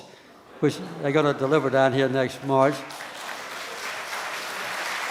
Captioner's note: applause from the audience